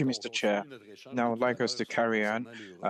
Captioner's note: speaking French